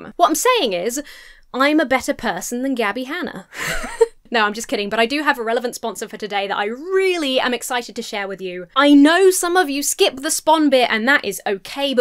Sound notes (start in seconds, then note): 3.5 laughs